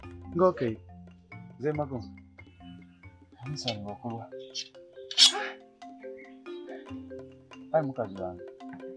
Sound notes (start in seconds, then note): 5.1 sighs